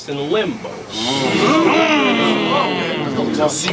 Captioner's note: crowd Reaction